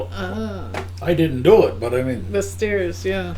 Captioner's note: ahhh